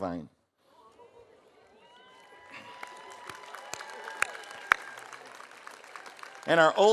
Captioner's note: audience cheering; audience applauding